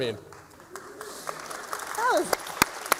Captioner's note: applause